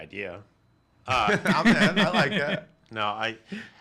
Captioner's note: laughs